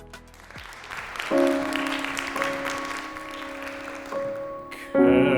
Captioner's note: audience applauding